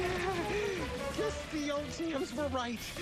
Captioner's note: uneasy chuckle